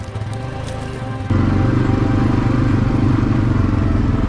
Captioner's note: engine humming